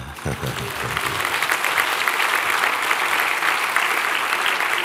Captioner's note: applause